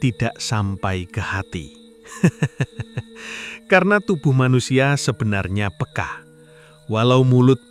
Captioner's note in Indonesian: tertawa